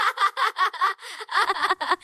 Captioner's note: laugh